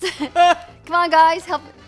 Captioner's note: laughs